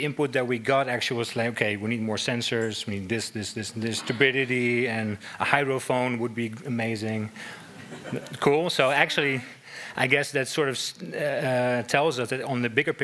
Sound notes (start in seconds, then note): 7.8 laughing